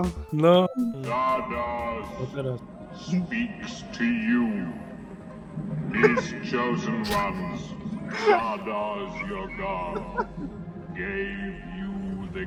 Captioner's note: voice from the obelisk